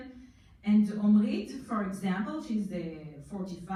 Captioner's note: foreign language